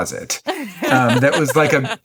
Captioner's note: laughing